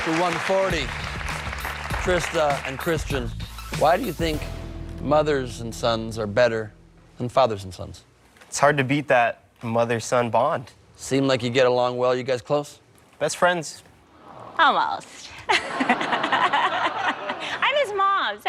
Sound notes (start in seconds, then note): 14.9 audience awws; 15.4 laughter